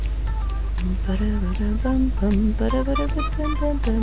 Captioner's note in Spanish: tararea el tema musical del juego